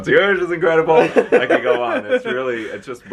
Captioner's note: laughs